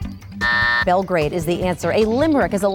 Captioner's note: buzz